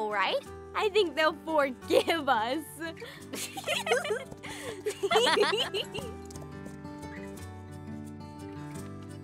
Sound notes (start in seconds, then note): 3.4 laughs